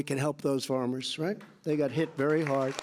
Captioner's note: applause